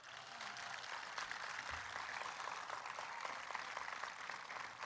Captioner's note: applause